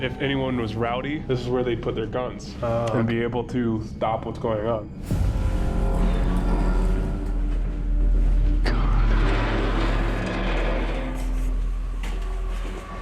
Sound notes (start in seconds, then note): 8.6 whispers; 9.9 door creaking